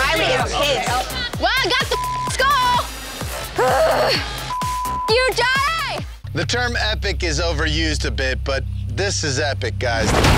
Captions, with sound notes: - Riley is pissed. - Well, I got the (beep) skull! (beep) you, Johnny! - The term epic is overused a bit, but this is epic guys.